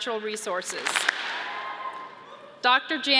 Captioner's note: audience claps and cheers